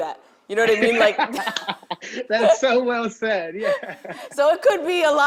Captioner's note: laughing